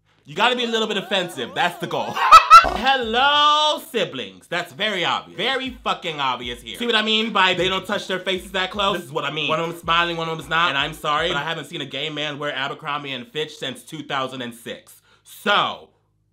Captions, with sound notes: You gotta be a little bit offensive, that's the goal. (laughs) Hello siblings! (electronic dance music) That's very obvious. Very fucking obvious here. See what I mean by they don't touch their faces that close? This is what I mean. One of them's smiling, one of them is not. And I'm sorry, but I haven't seen a gay man wear Abercrombie and Fitch since 2006, so.